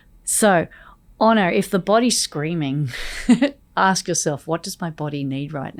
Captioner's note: laughs